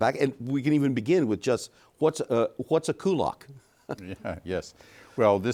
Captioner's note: chuckles